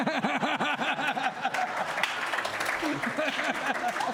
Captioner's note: laughter; applause